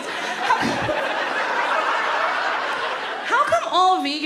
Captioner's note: audience laughs